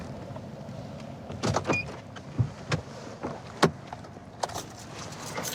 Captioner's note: car door opens